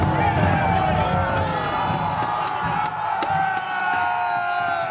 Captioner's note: cheering